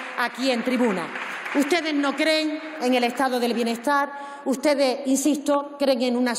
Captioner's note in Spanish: Aplausos